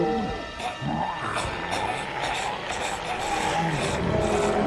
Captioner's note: zombie spartacus roaring